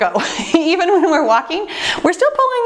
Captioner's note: laughs